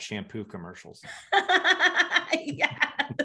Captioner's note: laughing